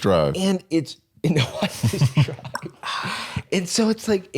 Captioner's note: laughing